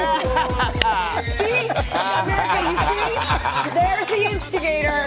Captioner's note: laughter